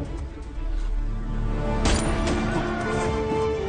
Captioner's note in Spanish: Disparo